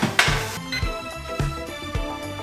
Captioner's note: beeping sound; upbeat music